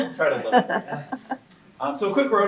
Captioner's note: laughing